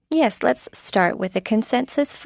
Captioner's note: speaking French